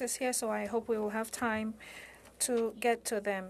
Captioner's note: speaking French